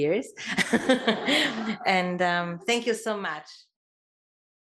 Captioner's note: laugh